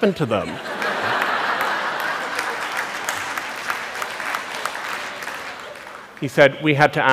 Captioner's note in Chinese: 笑聲